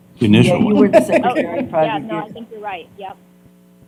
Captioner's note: laughter